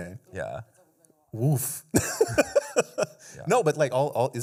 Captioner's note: laughs